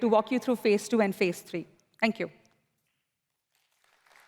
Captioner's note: applause